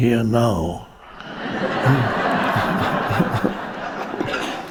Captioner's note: audience laughing